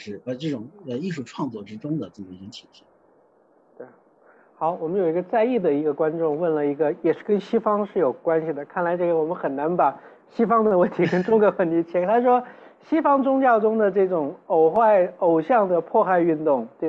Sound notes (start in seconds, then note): 3.9 Mandarin; 10.8 laugh